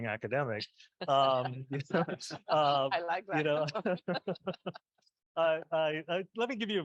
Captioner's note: group chuckling